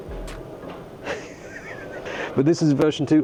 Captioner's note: laughs